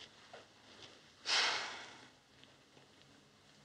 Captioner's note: sighs